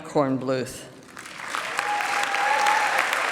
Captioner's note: applause